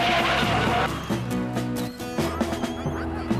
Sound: tires Squealing

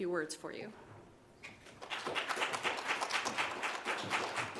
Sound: audience claps

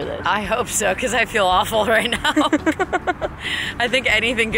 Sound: laughs

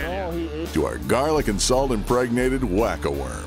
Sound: voiceover

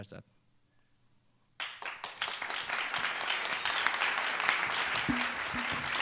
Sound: applause

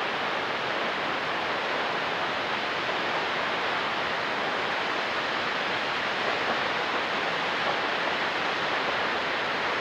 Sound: water falls

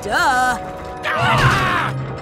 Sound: scream

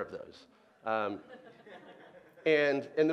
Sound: laughing

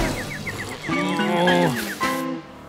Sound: groaning

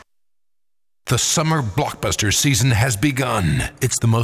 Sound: voiceover

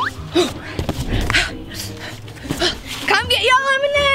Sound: grunting

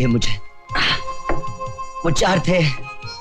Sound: groaning

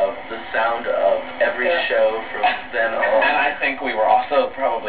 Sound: group laughter

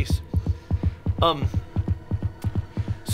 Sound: heart beating fast

